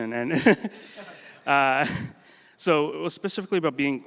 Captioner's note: laughter